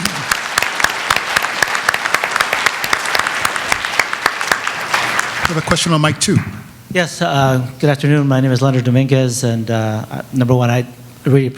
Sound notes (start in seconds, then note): 0.0 applause